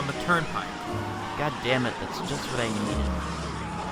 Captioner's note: cars continue to crash; cars still continuing to crash